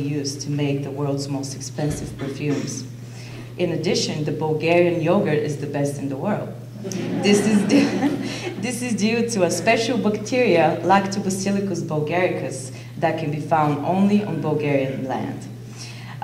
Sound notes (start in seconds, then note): 6.8 audience laughter; 6.8 laughs